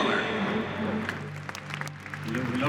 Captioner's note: applause